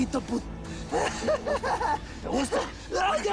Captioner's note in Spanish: Risas